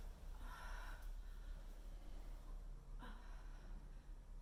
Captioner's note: Leona sighs